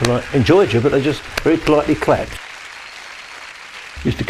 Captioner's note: clapping hands